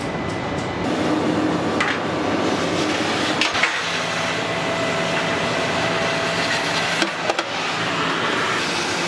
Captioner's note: gas cutting